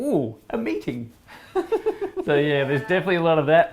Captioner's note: laughs